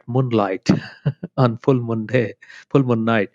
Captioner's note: laughs